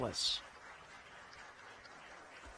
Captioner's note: applause